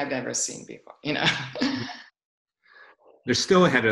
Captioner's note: laughs